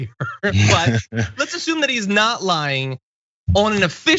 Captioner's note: laugh